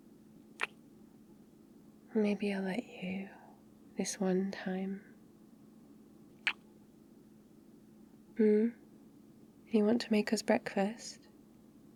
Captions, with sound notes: *kiss* *quietly* maybe I'll let you... this one time *kiss* hmm? you want to make us breakfast?